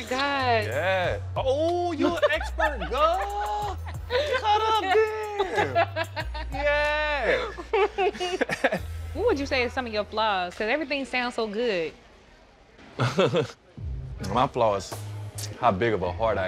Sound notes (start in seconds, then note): 3.1 laughing; 7.0 both chuckle; 13.0 chuckles